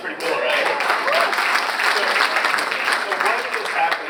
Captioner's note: audience applauds